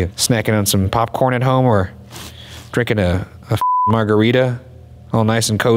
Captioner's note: beep